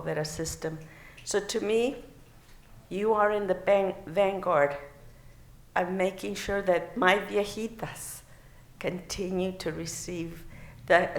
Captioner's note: non-english